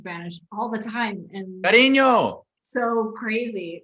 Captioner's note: Mark shouting in Spanish